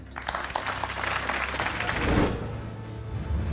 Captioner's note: clapping